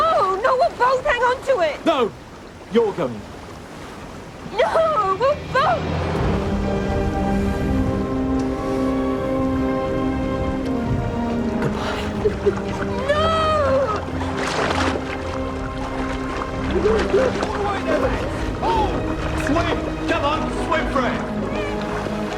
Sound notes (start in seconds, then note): 6.2 slow orchestral music; 11.6 sobs